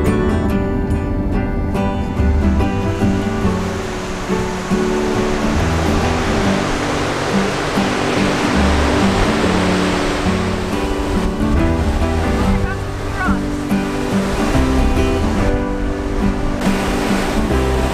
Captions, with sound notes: [sound of the ocean] -I found some rocks.